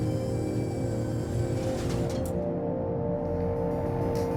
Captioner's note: liferaft door stops